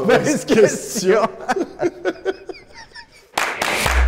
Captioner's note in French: rires